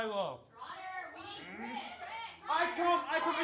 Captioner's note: angry shouts offstage